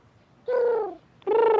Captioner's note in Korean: 비둘기 소리 완벽 구현